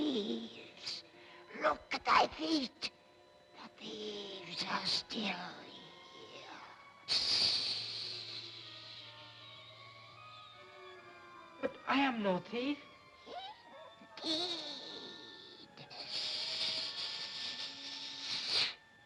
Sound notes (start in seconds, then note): 7.0 snake hisses